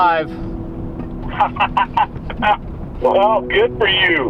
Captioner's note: chuckle